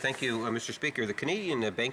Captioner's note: speaking French